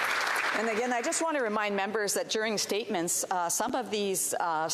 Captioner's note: applause